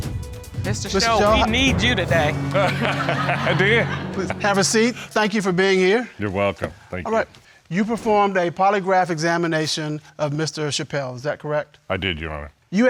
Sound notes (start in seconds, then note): 2.3 laughs